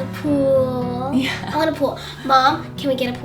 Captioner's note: laughs